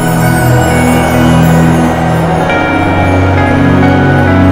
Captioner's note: Mouthing